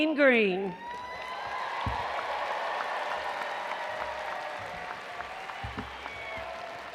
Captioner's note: attendees cheering and applauding